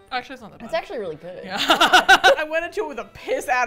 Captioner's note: laughs